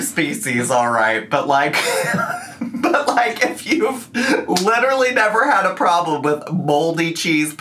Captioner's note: laughs